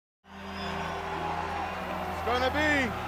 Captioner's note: audience roaring